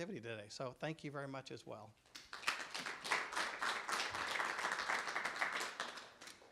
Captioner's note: clapping